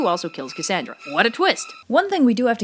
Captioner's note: Sarcastic